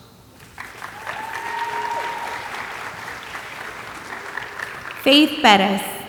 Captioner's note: audience applauding and cheering